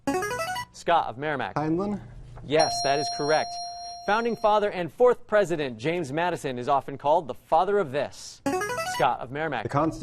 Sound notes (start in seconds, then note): 2.6 ding; 8.5 player buzzer